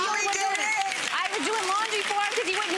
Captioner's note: audience applauding